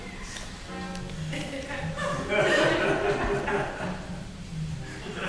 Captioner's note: audience laughing